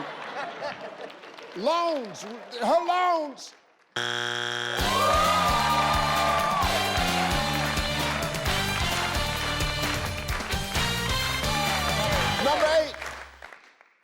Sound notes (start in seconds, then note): 0.0 audience laughs; 4.0 buzz; 4.9 orchestral music; 5.3 audience cheers